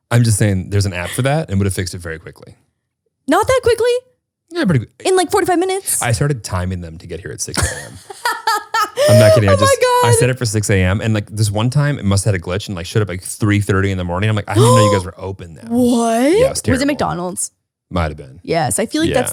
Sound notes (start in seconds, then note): 7.5 laughs